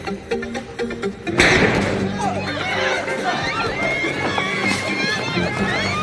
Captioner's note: suspenseful ambient music; gunshot fires; people scream